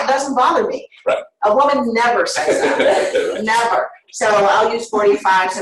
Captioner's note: laughter